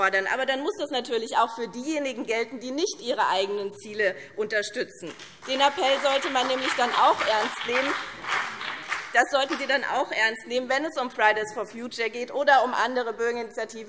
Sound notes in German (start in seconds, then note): 5.1 Beifall BÜNDNIS 90/DIE GRÜNEN und CDU